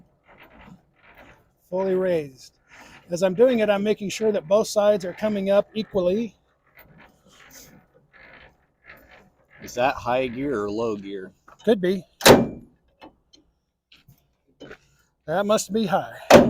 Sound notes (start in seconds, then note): 0.3 landing gear grinding; 12.0 handle thudding